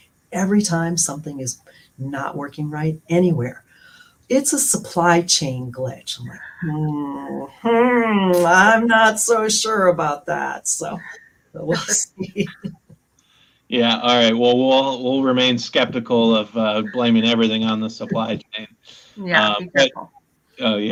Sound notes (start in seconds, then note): 12.1 laughter